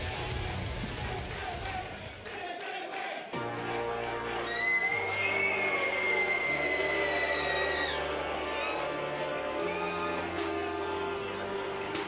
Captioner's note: crowd cheering